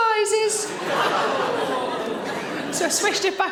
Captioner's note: audience laughing